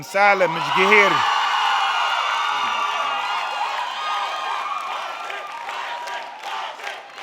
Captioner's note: audience cheering; audience clapping; people shouting